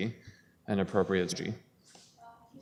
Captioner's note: audio drop